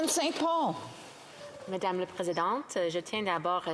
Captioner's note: speaking Alternate Language